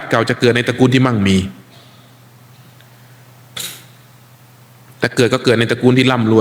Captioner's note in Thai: เสียงสูดหายใจ